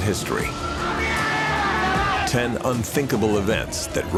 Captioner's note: man yells